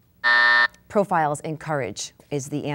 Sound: buzzing

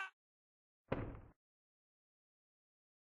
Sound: thud

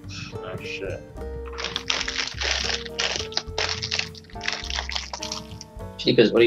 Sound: crunching sounds

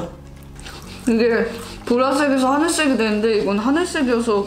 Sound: eating

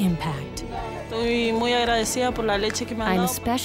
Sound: speaking spanish

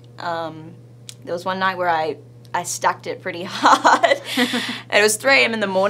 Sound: laughs

